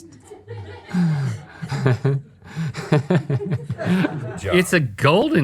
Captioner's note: laughing